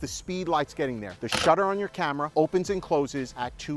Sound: shutter snaps

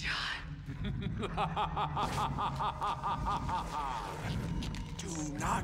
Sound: Balcus laughing

